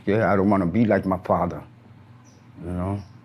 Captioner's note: birds chirp